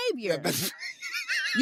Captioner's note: laughs